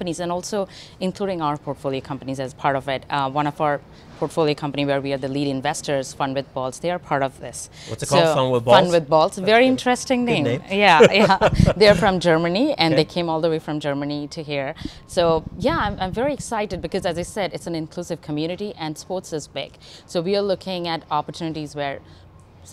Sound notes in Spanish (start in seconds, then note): 10.8 Risas